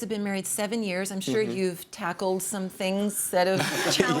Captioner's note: laughs